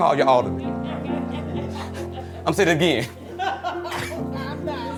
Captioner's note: group laughs